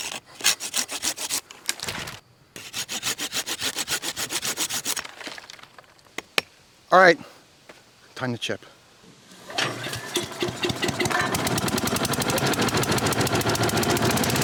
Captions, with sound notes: (sawing) - All right, time to chip. (motor revving)